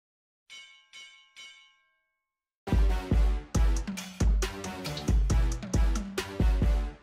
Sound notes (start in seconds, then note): 0.5 bell ringing; 2.6 upbeat music